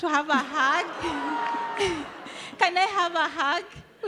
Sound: chuckling

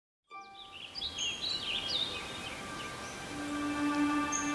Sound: birds chirping

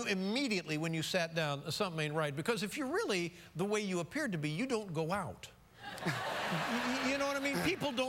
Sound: laughter

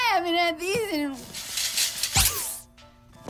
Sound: rattles

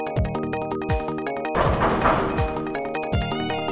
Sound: knocking

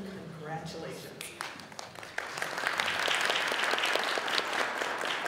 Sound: audience applauding

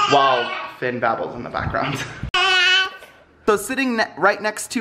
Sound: babbling

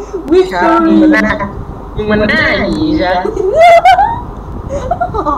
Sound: laughs; laughs

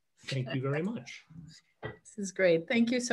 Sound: laughs

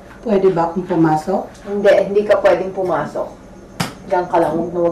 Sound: none

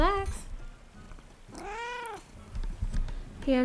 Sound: purring

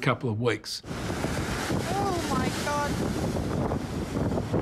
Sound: waves crashing

